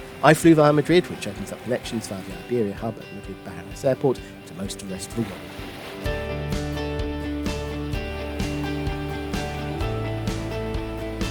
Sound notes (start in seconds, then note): 6.8 waves crashing on the beach